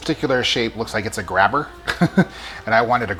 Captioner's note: laughs